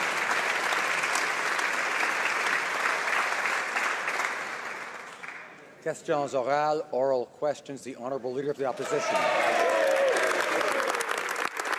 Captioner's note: applause